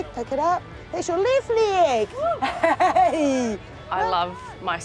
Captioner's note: laughs